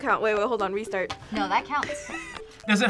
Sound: laughs

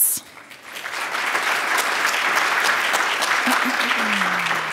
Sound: crowd applauding

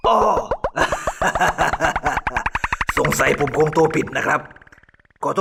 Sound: laugh

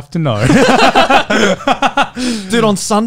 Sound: both laughing

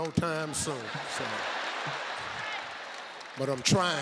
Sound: audience laughs

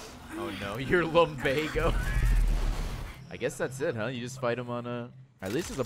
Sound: laughs

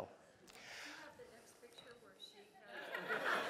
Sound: laugh

